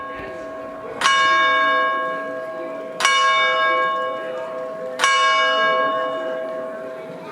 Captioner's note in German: Glockenläuten